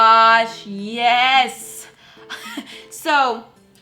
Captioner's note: wheeze